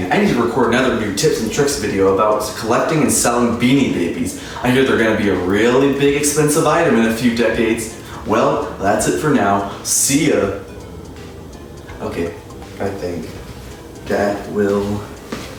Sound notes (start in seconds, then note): none